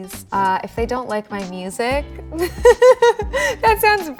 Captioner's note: laughing